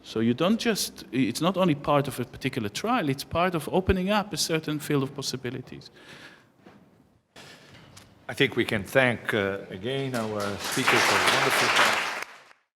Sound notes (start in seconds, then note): 10.0 applause